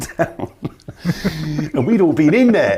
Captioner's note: the men chuckle